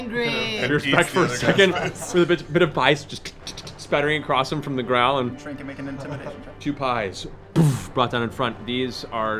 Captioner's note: thud